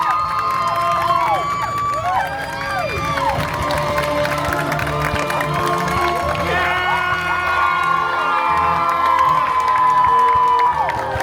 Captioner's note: guests cheering and applauding